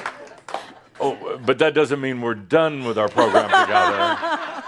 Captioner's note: laughter